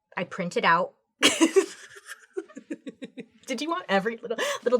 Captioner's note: laughs